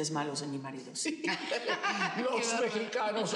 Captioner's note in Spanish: Risas